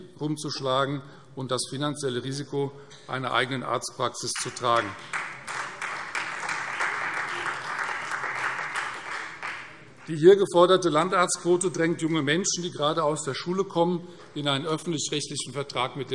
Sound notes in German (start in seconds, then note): 4.3 Beifall Freie Demokraten